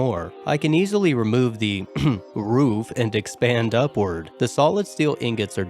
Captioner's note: ahem